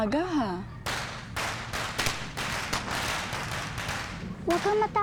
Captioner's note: firecrackers blasting